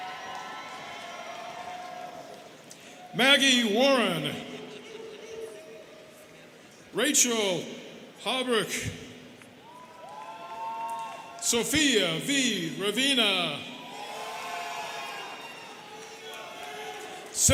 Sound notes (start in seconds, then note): 0.0 students cheering; 9.6 students cheering; 13.8 students cheering